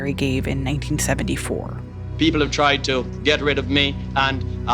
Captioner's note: soundbite of archived recording